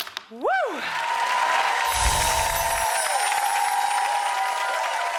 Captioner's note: cheering and clapping; bells chiming; audience cheering and clapping